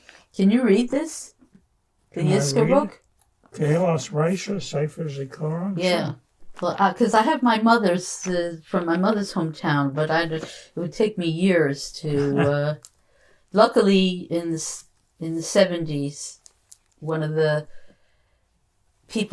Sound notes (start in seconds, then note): 5.1 non-english; 12.1 laughing